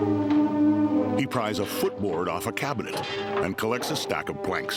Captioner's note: nails creaking